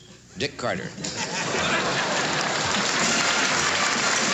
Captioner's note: applause